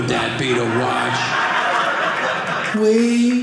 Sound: audience laughing

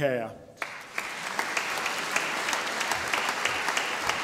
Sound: audience applauding

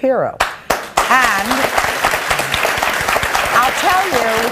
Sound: audience applauds

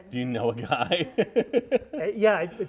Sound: laughs

